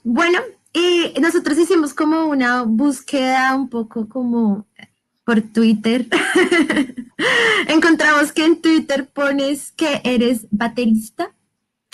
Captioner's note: laughs